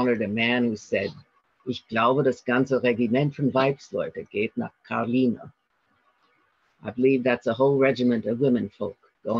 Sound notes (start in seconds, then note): 1.1 speaking German